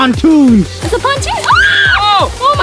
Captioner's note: screaming